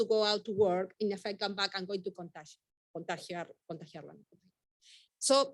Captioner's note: speaking Spanish